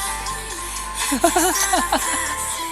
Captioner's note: haha